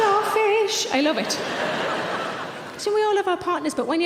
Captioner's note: audience laughing